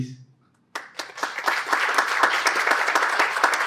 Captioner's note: clapping